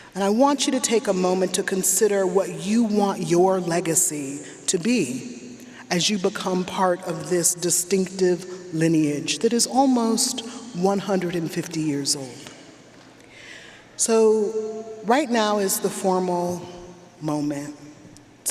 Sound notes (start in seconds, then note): none